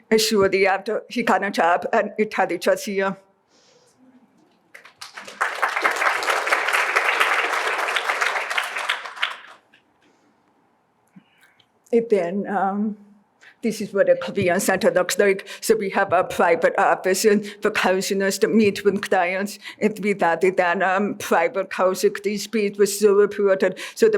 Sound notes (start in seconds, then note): 4.7 applause